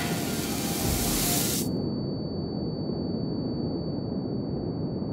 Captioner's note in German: Musik bricht abrupt ab; Rauschen; Piepen wird lauter